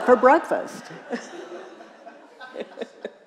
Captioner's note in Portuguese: risos da plateia